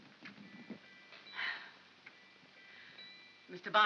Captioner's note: soft upbeat music; sigh of relief